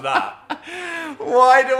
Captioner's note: Dan laughing